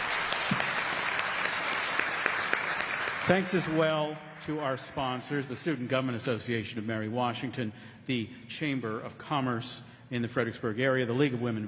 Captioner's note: applause